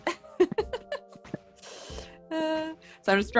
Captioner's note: laughing